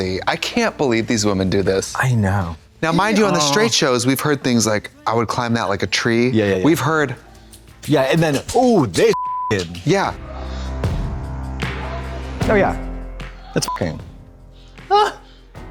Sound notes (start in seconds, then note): 7.3 flesh slapping; 9.1 beep; 10.7 women moaning; 13.6 beep; 14.9 women groaning